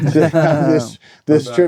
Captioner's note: laughing